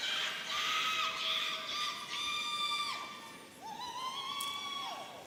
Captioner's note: audience cheering